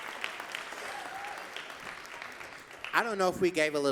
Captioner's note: audience cheering and clapping